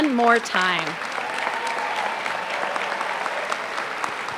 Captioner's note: applause